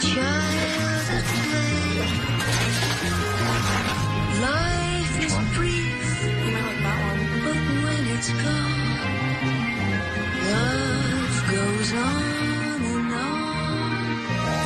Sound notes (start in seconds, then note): 4.7 paper tears, glass breaks